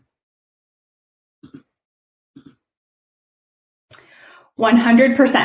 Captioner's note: keyboard clicking